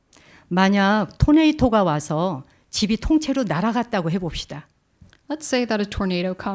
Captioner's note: speaking in Korean